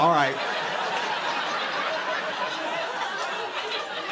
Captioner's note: laughter